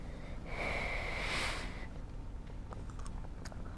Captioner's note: blowing